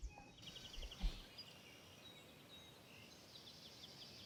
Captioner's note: birds chirping